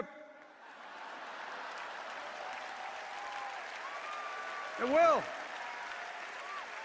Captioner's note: laughter and applause